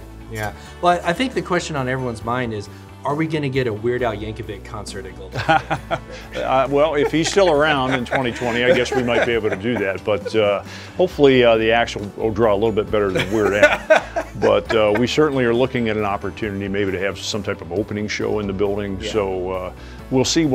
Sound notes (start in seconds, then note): 5.4 laughing